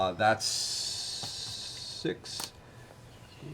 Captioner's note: none